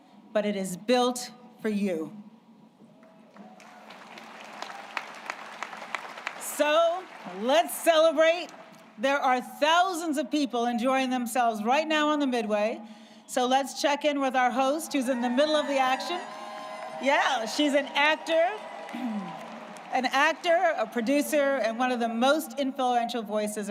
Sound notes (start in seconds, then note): 4.6 applause